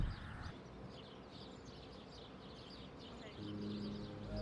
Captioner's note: birds chirping